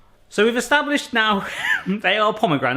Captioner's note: holds back laugh